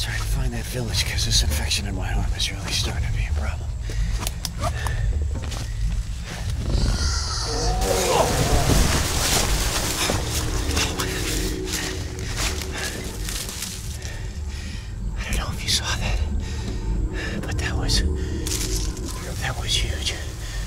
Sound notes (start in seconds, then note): 6.6 animal hisses; 12.2 breathing heavily